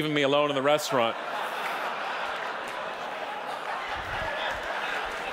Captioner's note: audience laughing